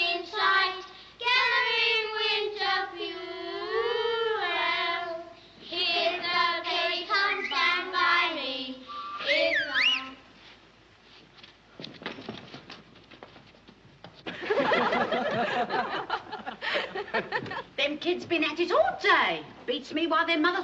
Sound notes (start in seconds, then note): 8.8 whistle; 14.2 laughter